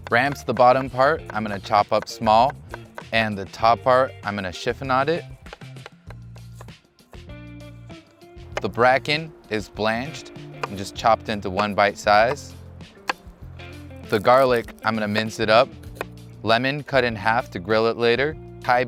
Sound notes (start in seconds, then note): 5.8 knife tapping